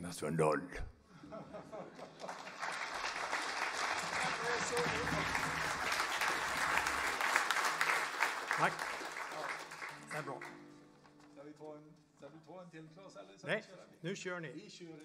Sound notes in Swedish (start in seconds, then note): 1.9 applåder